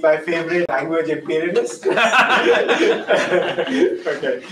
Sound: laughter

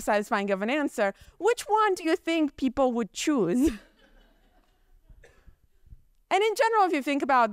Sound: chuckles

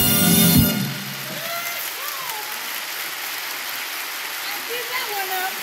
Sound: applause

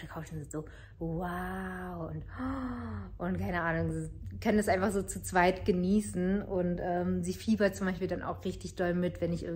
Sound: gasp

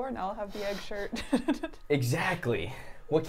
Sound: laughs

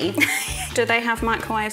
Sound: chuckles

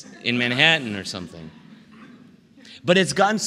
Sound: laughter

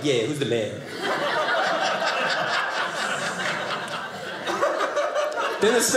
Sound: audience laughing

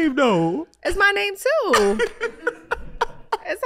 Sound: Iman laughing

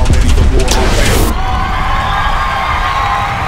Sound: people cheering

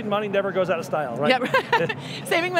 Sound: laughing loudly

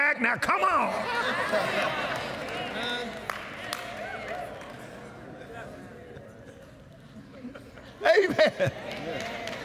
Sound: cheers & Applause; agreement & Applause

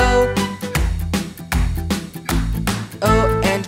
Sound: clap

